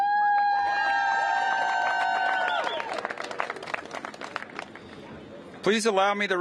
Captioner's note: cheers and applause